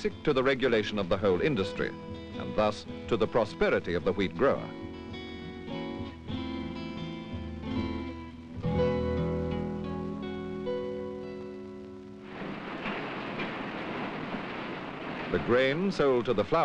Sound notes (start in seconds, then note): 11.8 sound of machinery